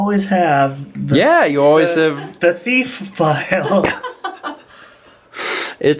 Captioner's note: chuckles